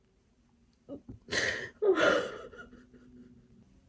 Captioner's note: cries